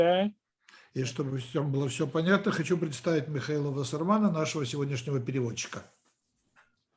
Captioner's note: translator speaking Russian language